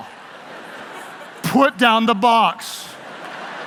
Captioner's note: laughing